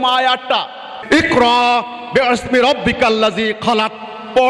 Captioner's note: Arabic